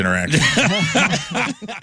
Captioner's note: laughing